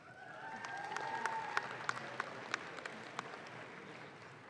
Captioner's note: audience claps